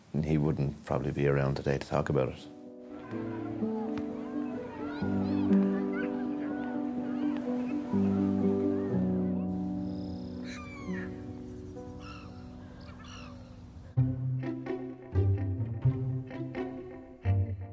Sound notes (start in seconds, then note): 2.8 crowd chattering; 3.2 solemn music; 10.7 birds cawing; 13.9 bright music